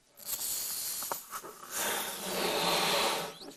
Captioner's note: blowing